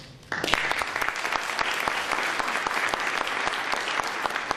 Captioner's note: applause